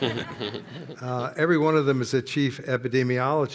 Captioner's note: laughter